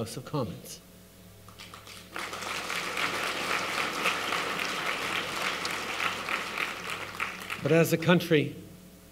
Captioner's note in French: Applaudissements